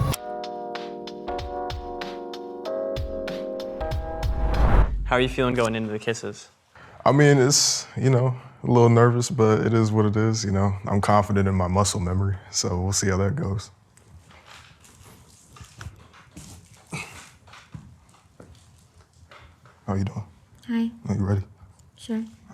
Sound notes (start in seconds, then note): 0.0 relaxed electronic music; 14.3 boot creaking